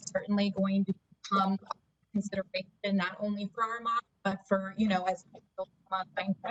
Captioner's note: audio interference